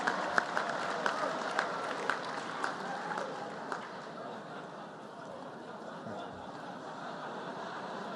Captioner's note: laughter and applause